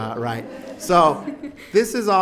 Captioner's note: audience laughs